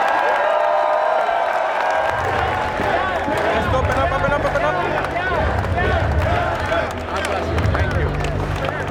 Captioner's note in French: applaudissements